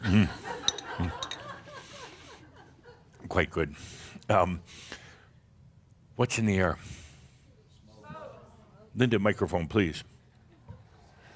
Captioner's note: some chuckles; audience shouts “Smoke!”